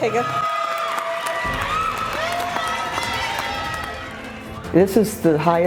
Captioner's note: crowd cheers and applauds